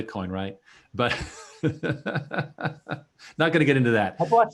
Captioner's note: laughing